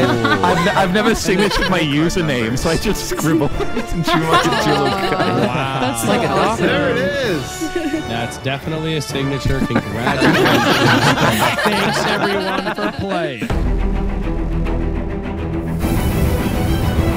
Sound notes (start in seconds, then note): 3.9 all laughing; 13.4 intense exciting music